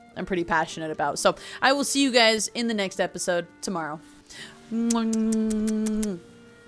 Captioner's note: lots of kisses